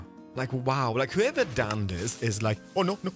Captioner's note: pistons move, TNT sizzles